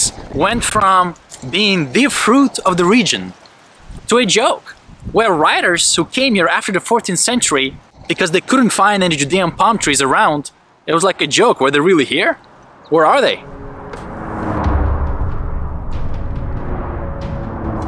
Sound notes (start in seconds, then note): 13.2 cars whooshing